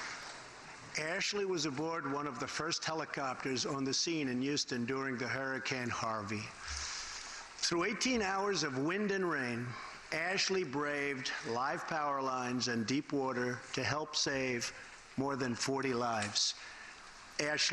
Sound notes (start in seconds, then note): none